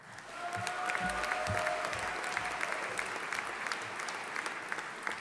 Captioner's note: audience applauding